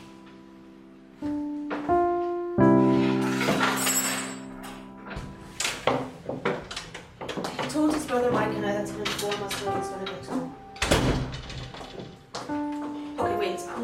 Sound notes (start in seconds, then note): 3.1 bread board and cutlery shuffling and clanging; 6.3 door opens; 10.7 door closes